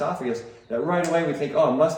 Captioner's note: snaps